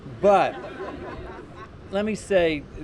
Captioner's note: laughter